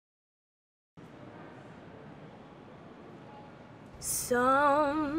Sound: distant traffic humming

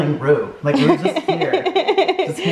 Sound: mom laughs

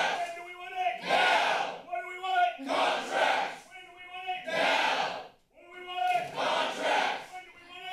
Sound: protester shouting

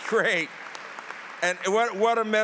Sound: applause

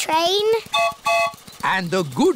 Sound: train whistle blows

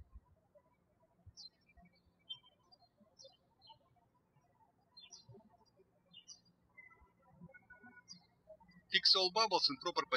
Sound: birds chirping

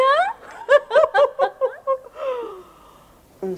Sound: both laugh

